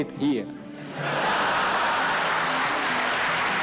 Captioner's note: laughter